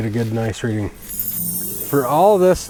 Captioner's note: magical chimes ringing